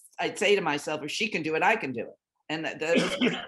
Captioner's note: speaking faintly